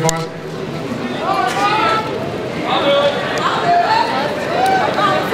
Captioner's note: voiceover